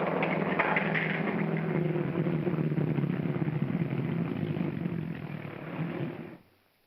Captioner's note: clattering sounds; car engine rumbling